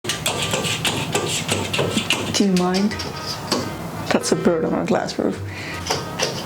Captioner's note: pitter pattering